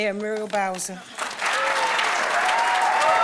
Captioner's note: applause